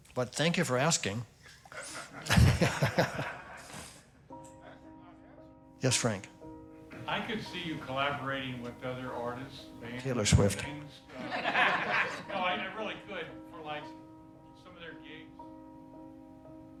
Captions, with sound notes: But thank you for asking. [laughter] [gentle music] -Yes, Frank. -I could see you collaborating -with other artists... -Taylor Swift. -[laughter] -No, I, I really could for, like, some of their gigs...